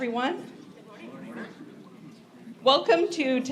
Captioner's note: group response